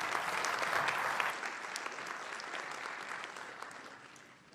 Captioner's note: applause